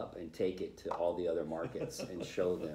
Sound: laughter

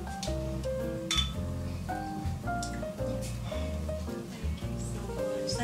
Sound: glasses clinking

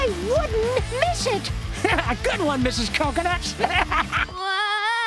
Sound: laughing

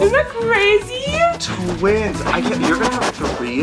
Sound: dog panting

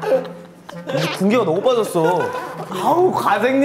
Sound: he clicks his tongue

